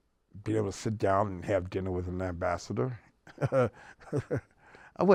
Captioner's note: laughs